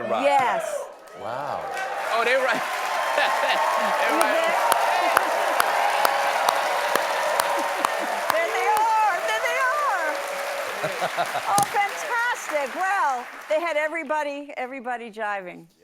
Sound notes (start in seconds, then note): 4.0 applause